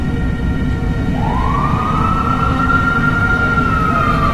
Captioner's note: siren wails